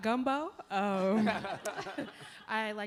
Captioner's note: laughter